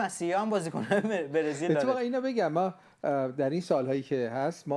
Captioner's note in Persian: خنده